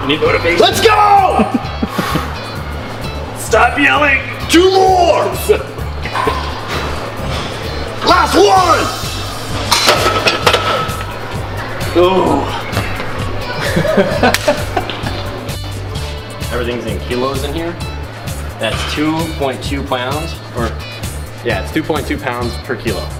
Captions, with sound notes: Do it. Let's go! Stop yelling. *Yelling* Last one!! Everything is kilos in here. That's 2.2 pounds, yeah, it's 2.2 pounds per kilo.